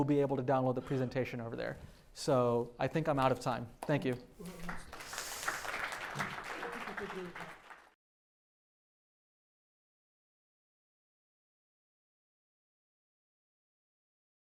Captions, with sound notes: be able to download the presentation over there. So I think I'm out of time. Thank you. [APPLAUSE]